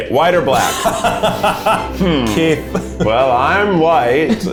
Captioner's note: laughing